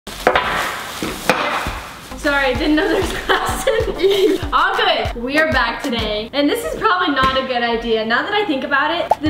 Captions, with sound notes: (glass hits the countertop) - Sorry, didn't know there was glass in ... All good! We are back today. And this is probably not a good idea, now that I think about it.